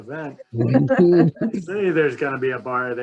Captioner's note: laugh